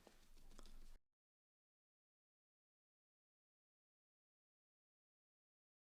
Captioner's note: silence